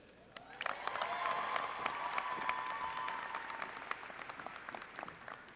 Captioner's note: cheering